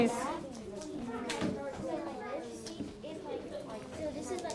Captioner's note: learners conversing